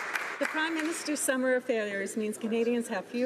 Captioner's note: applause